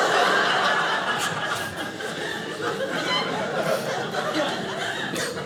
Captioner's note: audience laughing